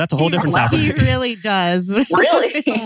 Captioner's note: laughs